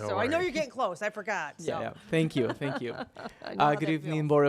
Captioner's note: laughing